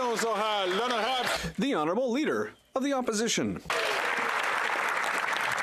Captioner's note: applause